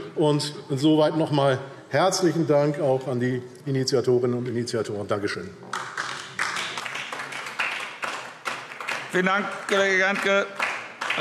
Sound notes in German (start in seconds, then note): 5.6 Beifall DIE LINKE